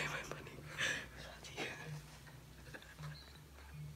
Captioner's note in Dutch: gelach